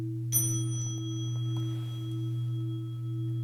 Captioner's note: mini bell rings